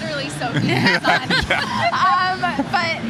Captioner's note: laughing